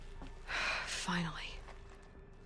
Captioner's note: sigh